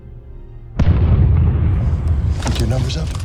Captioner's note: explosion booms